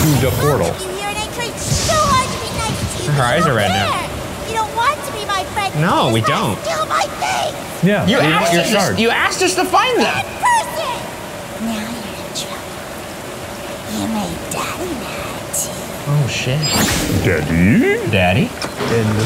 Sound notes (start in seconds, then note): 16.7 explosion booms